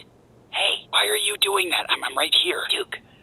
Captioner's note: whispering